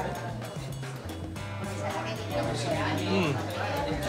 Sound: none

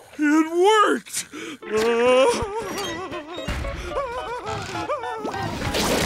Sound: laughing

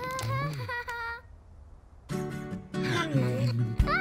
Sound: gasps

